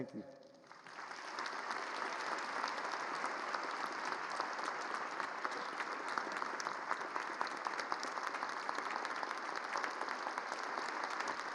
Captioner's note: applause